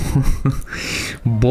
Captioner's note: chuckles